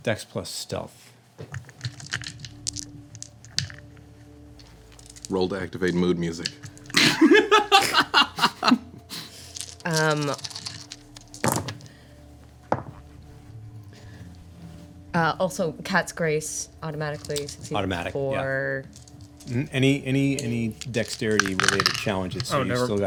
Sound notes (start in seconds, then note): 1.6 dice rattling; 2.0 dramatic music; 6.9 laughing; 9.4 dice rattling